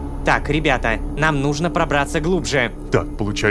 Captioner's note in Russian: шепотом